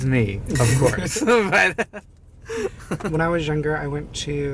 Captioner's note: both laughing